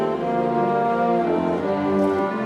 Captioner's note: none